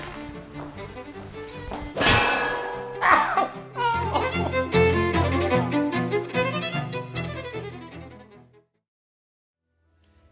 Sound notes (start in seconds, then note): 2.0 crash followed by weeping